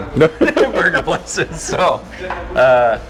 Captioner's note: both laughing